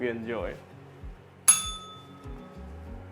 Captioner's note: bell rings